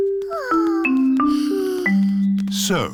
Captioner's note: peppa and george sigh